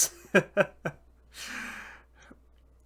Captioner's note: chuckling; inhale